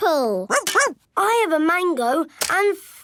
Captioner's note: barks